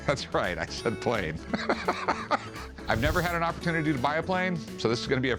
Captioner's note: laughs